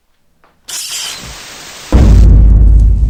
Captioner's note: static buzzes; dramatic music